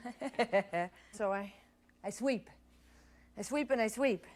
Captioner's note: laughs